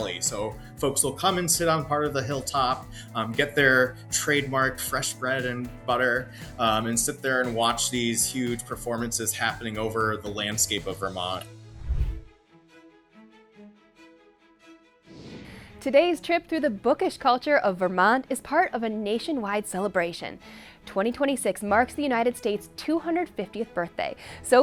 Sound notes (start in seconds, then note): 11.7 graphic whooshing; 13.4 gentle upbeat music